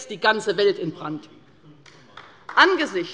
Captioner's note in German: Beifall bei der LINKEN